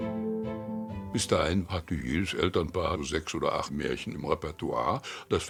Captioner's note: speaking in foreign language